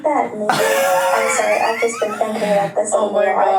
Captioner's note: laughs